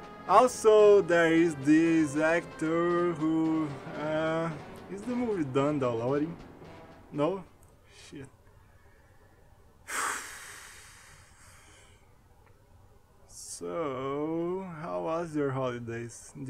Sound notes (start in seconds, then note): 9.8 sigh